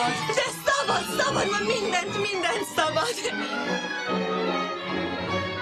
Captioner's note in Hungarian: Carolyne nevetve